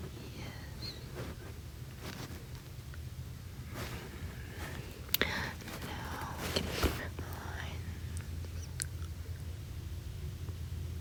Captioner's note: yawn